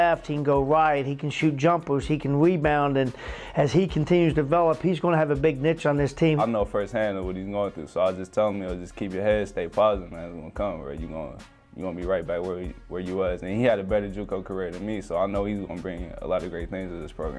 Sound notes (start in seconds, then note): 6.3 voiceover